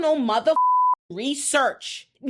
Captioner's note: beep